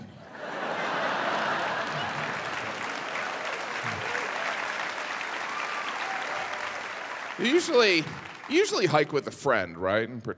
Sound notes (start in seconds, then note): 0.2 audience laughing; 0.3 audience applaud